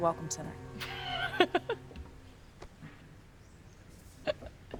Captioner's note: Claire laughs